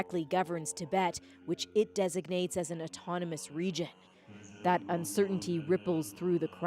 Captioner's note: speaking alternate language